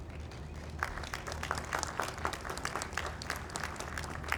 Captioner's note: audience applauds